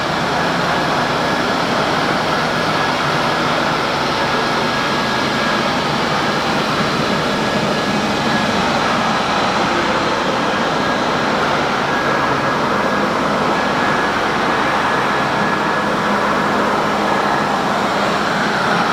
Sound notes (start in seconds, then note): 13.3 concrete Polishing Noises